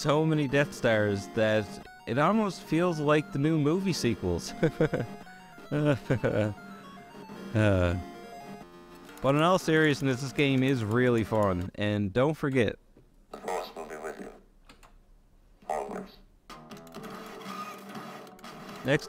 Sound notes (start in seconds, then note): 5.6 sarcastic laughter